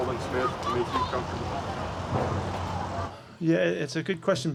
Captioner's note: child yells